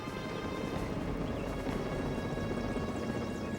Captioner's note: helicopter whirring